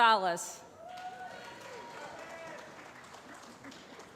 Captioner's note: applause